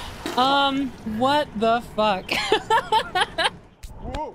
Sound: laughter

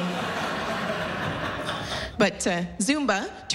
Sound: laughter

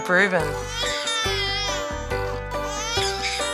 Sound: baby crying

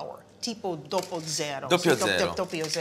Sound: italian

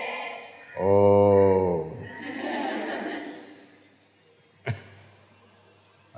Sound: laughter

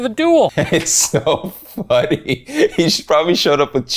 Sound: laughs

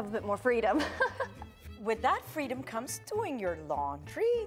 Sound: laughs

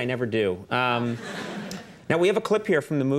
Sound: audience chuckling

